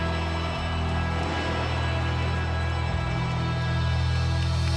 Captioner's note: audience cheering; lighting crashing